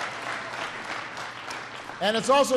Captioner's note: applause